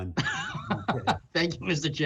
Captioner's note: laughter